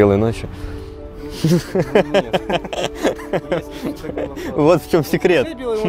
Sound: laughs

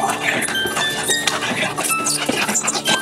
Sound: growling

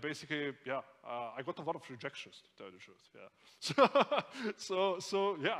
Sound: laughs

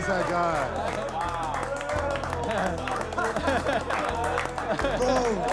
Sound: laughter, applause

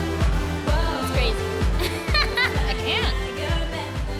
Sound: laughing

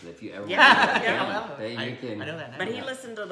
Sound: laughing

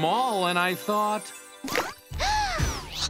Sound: gasping

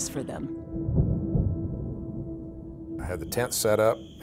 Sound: thunder rumbling

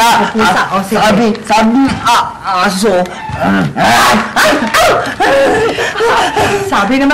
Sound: laughing

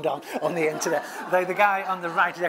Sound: laugh

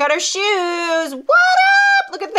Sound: excited squeal

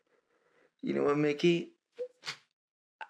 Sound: stammers

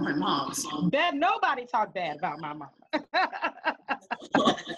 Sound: laughing

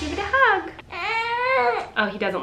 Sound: loud drum bangs; baby crying

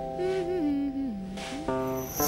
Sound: humming a tune

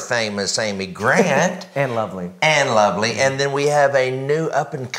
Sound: chuckles

